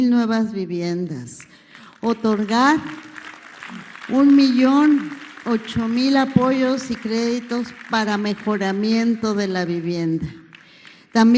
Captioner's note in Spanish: aplausos